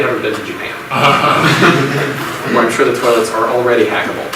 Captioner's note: audience laughs